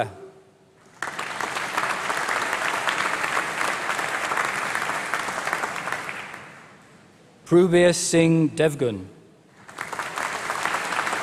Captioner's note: applause